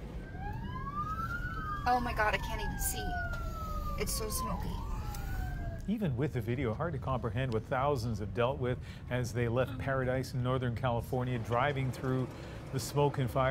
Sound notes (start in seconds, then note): 5.8 sirens